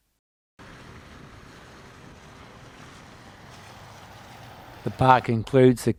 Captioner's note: vehicle sounds